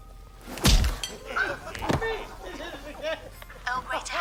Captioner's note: laughter